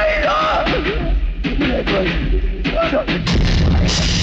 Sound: train rumbling

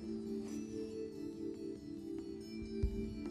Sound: whispering

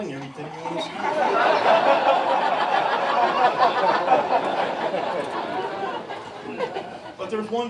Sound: laughter

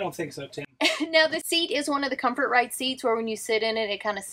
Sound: chuckles

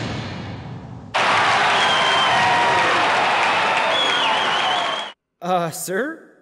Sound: cheering

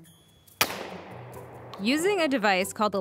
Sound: gunshot

